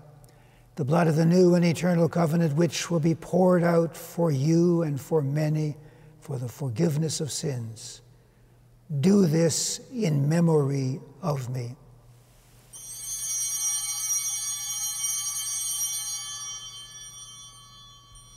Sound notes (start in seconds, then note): 12.7 chimes ringing